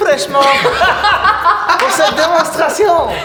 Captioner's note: laughter